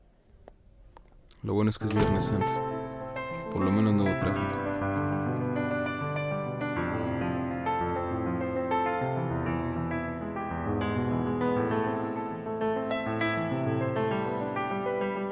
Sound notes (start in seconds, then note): 6.1 clock ticking; 6.1 slow dramatic music